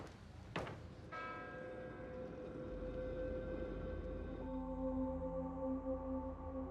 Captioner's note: bell tolls; somber music